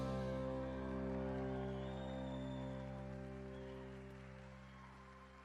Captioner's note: cheering and applause